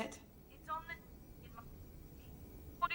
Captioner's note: call cutting out